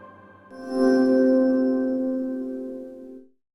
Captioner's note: chimes